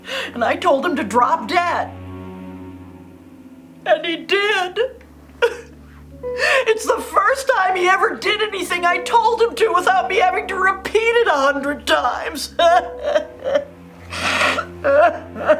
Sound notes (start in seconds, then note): 5.4 sobs; 12.5 sobbing